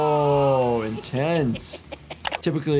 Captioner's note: Chucky giggling